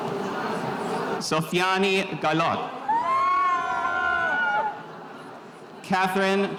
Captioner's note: spectators cheering